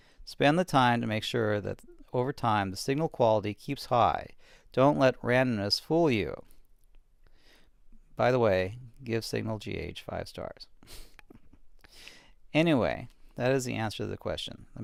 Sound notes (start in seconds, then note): 11.0 laughs